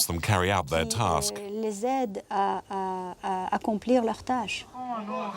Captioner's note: French spoken audio